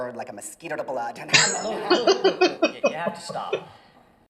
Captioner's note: laughing